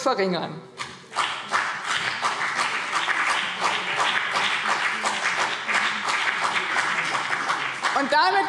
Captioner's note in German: Beifall BÜNDNIS 90/DIE GRÜNEN und vereinzelt CDU